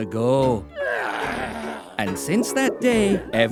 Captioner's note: grunting